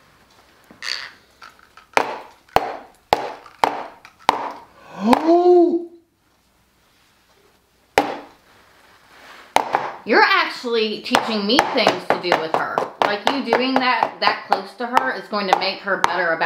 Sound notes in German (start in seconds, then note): 2.2 Tasse klopft auf den Tisch; 4.7 Mann atmet scharf ein; 10.1 Mutter